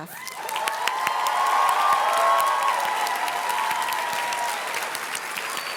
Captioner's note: audience cheers and claps